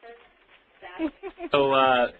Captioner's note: laughs